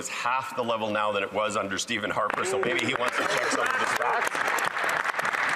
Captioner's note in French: voix de l'interprète